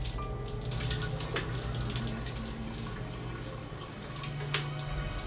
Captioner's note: shower running